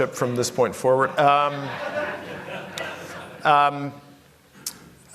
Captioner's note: laughter